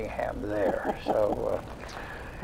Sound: laughs

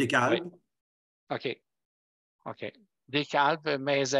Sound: speaking foreign language

